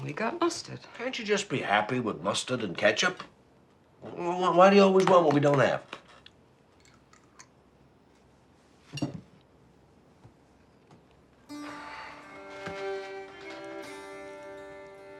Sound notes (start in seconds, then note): 11.5 sighing